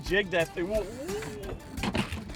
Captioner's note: grunting; water splashing